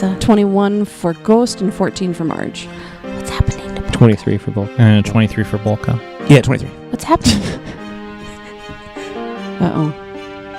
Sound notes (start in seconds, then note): 2.5 whispering; 7.2 laughs